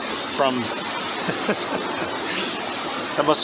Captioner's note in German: Gelächter